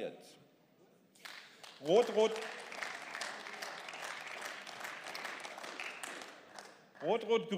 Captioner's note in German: Beifall